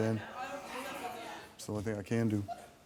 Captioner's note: audience reacting